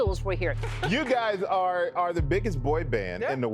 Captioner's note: soundbite of archived recording